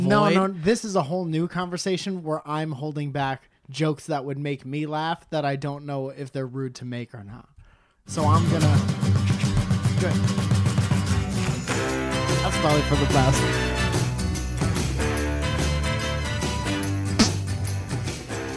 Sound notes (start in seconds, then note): 17.1 fart noise